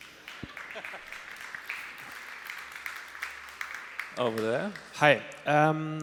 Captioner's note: applause